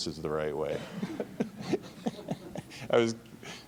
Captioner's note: laughing